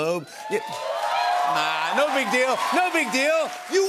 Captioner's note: cheers and applause